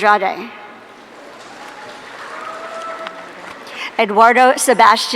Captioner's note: audience cheering